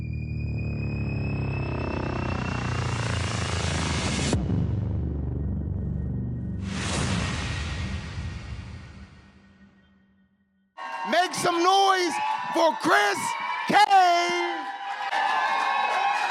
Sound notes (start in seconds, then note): 0.1 dramatic Intro Music; 4.6 audience cheers; 14.8 audience cheers